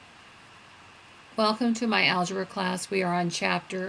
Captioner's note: voiceover